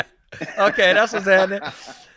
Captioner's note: all giggling; murmurs